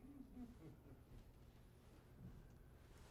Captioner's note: audience chuckling